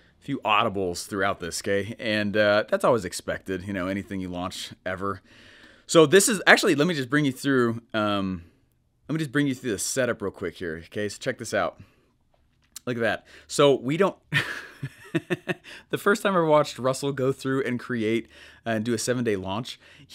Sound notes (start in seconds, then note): 14.4 laughing